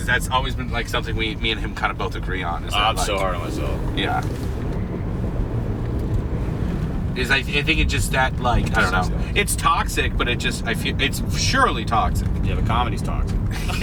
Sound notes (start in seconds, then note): 4.7 engine humming; 13.4 laugh